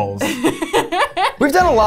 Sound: laughs

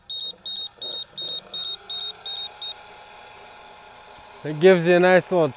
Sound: control panel beeping; control arm whirring

